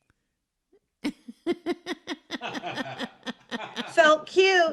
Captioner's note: woman and man laughing